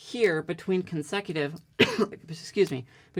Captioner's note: coughing